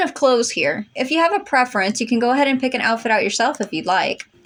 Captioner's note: none